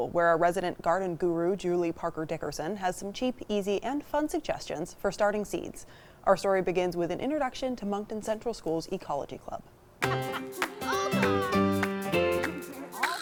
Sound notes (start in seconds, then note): 10.0 student laughing; 10.0 upbeat music